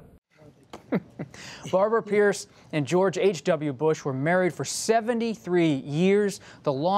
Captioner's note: laughs